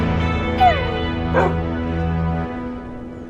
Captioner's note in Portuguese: Cachorro late; Música de ação some lentamente